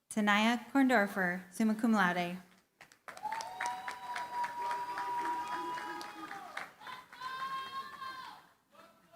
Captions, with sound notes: Tania Korndorfer, summa cum laude. [CHEERING, APPLAUSE]